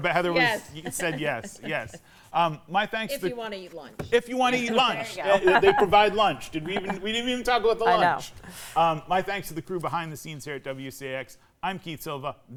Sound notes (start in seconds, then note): 4.5 laughs